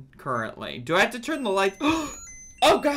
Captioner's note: Tamagotchi beeps; gasps